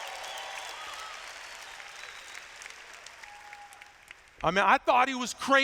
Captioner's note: applause